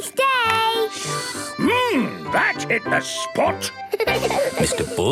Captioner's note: slurping; giggling